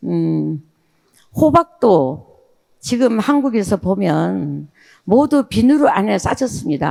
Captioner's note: speaking in foreign language